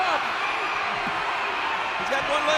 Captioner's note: audience cheering